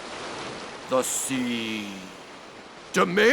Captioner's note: waves crashing